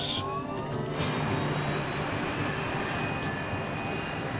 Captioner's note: engine whirring